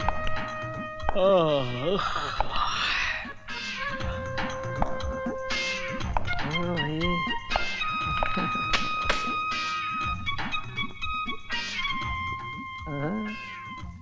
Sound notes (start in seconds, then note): 1.5 yawning